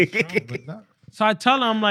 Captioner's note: laughter